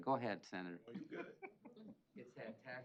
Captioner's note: laughter